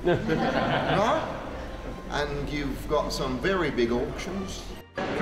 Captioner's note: laughter